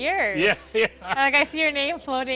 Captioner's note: laughing